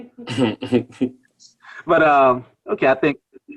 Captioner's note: laughs